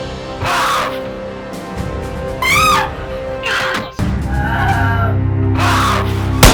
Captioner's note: guns firing; woman screams